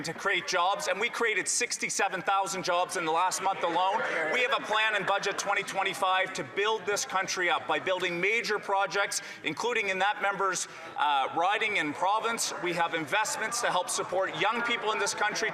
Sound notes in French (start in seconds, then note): 4.2 voix de l'interprète